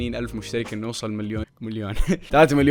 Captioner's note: chuckles